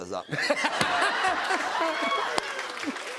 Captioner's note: laughter; applause